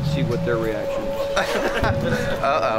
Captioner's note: player Laughter